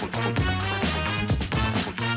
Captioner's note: applause